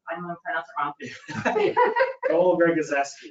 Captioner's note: laughs